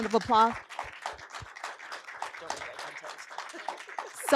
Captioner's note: applause